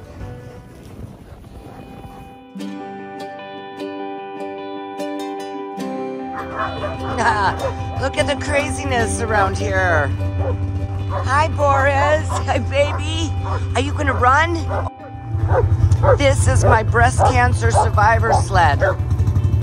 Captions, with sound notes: (laughs) Look at the craziness around here! (Barking Dogs and snowmobile) Hi Boris! Hi baby! Are you gonna run? This is my breast cancer survivor sled!